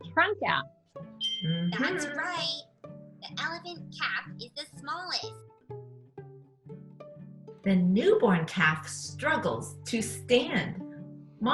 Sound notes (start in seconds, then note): 1.2 bell dings; 2.4 computer Voice